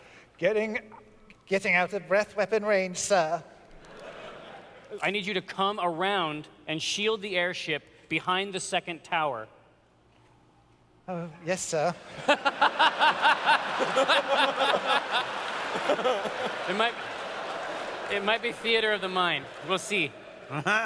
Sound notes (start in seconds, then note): 12.0 laughter